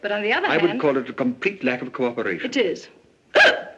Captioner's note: hiccuping